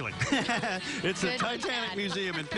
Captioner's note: laughing